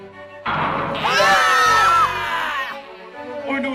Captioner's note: BFDI screams